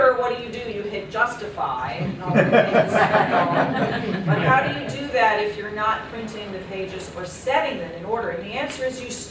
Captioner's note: laughter